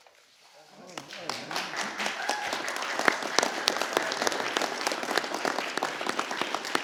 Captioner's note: applause